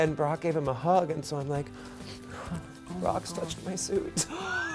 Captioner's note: sniffing